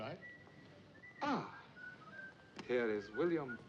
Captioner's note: whistling